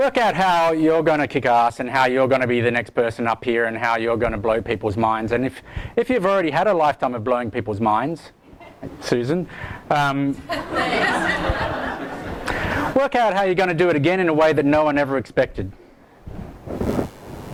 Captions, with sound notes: Look at how you're gonna kick ass, and how you're gonna be the next person up here, and how you're gonna blow people's minds, and if you've already had a lifetime of blowing people's minds, Susan, (audience laughs) - [Voiceover] Thanks. - work out how you're gonna do it again in a way that no one ever expected.